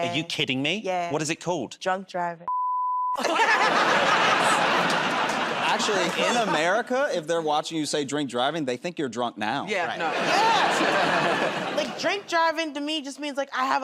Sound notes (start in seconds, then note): 3.2 laughter and applause; 10.0 laughter